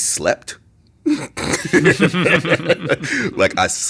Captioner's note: both laughing